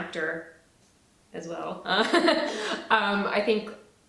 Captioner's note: laughs